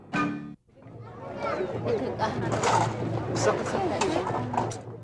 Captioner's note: market noise